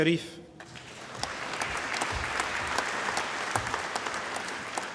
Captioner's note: applause